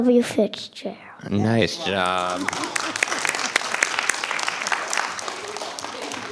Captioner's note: audience applauding